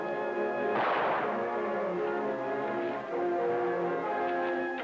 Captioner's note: rifle blasting